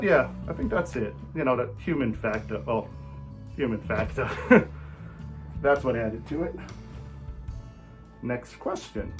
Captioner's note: laughs